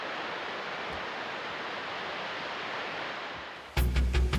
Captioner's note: water falls